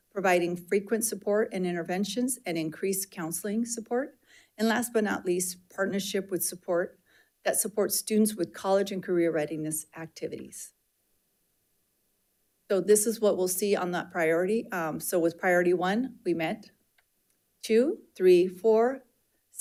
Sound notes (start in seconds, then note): none